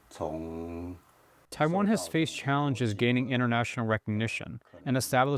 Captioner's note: through translator